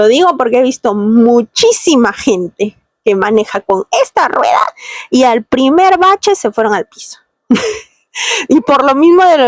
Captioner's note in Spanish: risas